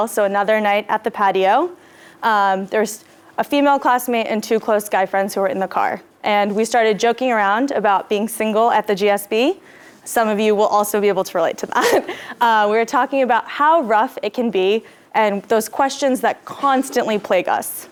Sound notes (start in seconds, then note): 11.9 laugh